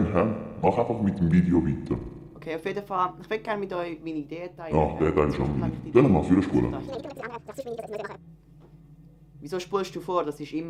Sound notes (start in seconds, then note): 6.8 chipmunk speech